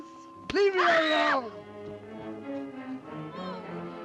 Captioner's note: screams